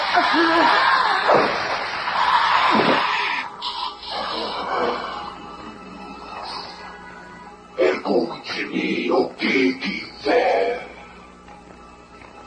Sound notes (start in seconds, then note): 0.7 choking